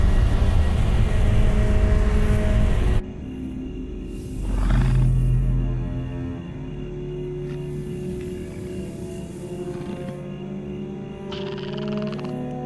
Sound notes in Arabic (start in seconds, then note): 4.1 يزمجر الكائن الفضائي بهدوء; 9.0 موسيقى غامضة عميقة